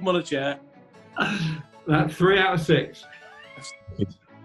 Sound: laughs

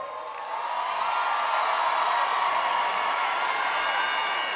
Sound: audience cheers

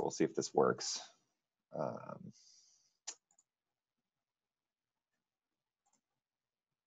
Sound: silence

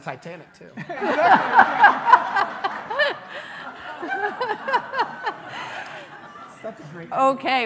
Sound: laughing

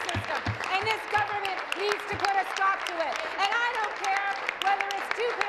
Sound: applause

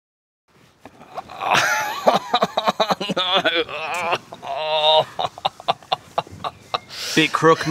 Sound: groaning laughter

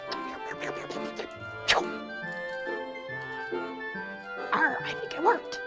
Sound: puppet chewing and slurping

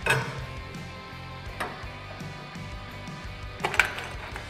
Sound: metal clinking

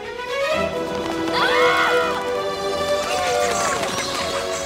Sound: screaming

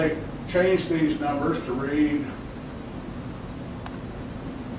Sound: power level beeps

